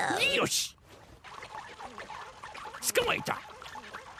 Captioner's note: gloinks squeaking, boinking